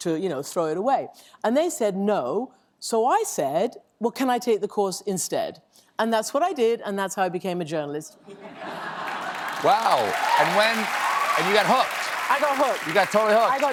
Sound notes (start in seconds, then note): 9.0 applause